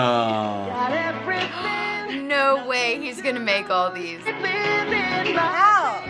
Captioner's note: gasps